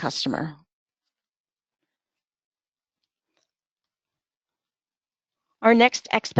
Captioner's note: silence